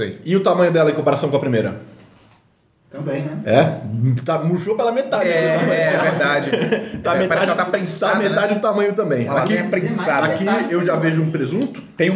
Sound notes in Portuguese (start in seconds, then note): 5.2 risos